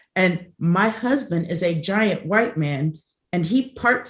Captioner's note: none